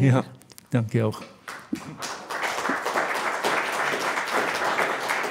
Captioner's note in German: Applaus